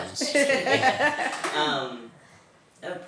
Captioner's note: laughter